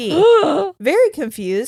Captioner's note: gasps